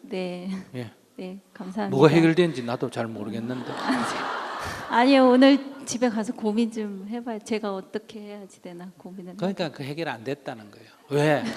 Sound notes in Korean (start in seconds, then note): 3.4 청중웃음